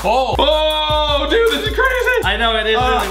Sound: shouts

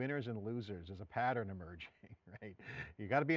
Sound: chuckles

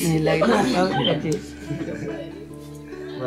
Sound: laugings

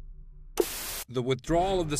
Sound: static buzzing

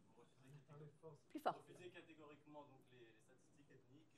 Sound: speaking french

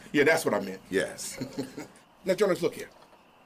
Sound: chuckling

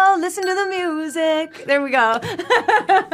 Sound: timer dinging; laughing

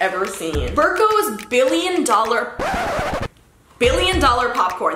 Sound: record scratches

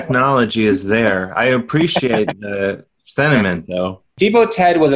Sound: laughs

